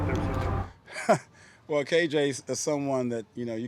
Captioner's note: laughs